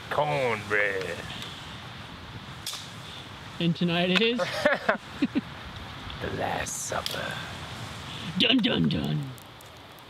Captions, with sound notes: Cornbread And tonight it is...(laughter) The last supper. Dun. Dun. Dunnn..